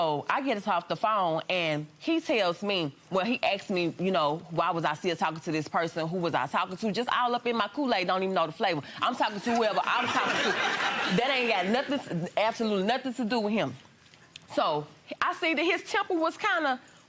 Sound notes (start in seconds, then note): 9.9 audience laughing